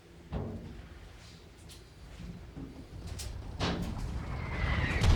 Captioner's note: faint gunfire popping; missile whooshing